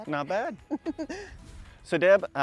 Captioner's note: laughs